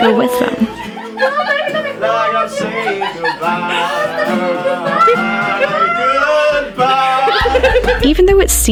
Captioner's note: high-pitched vocalization